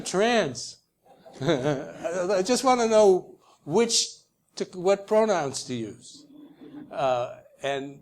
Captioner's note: laugh; laugh